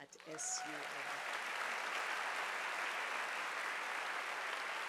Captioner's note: audience applauding